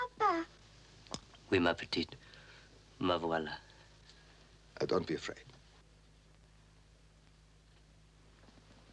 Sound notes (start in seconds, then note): 1.5 speaking in foreign language